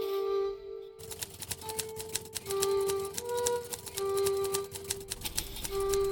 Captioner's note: typewriter clicking